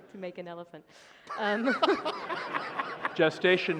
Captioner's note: laughter